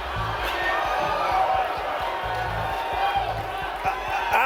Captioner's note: audience laughing